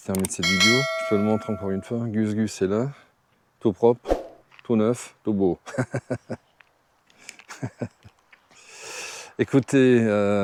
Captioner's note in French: rires